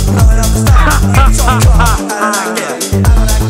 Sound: evil laugh

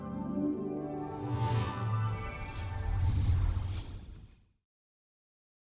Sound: whooshing electronic accent

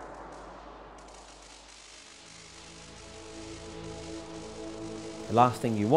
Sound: lightening bolt claps; lightening bolt flickering and sparking

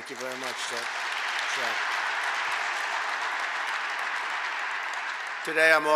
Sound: applause

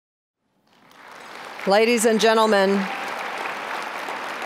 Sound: applause

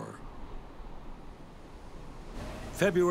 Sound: wind howling

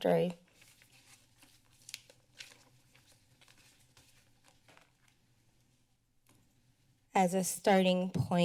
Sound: paper rustling

